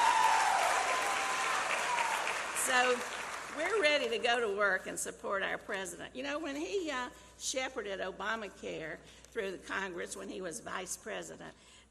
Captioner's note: applause